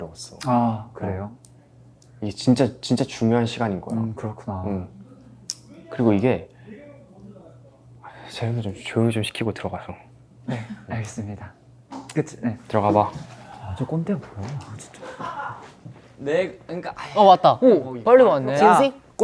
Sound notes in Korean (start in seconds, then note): 6.7 벽을 뚫고 들리는 대기실 소음